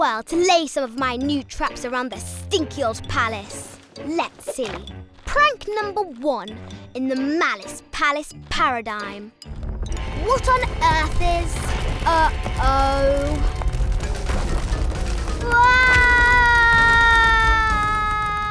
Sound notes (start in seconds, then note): 9.9 heavy rumbling; 13.4 dramatic music; 15.3 Malice screams